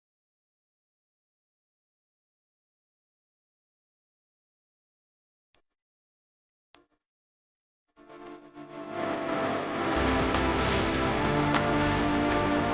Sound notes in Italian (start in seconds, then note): 1.8 Applauso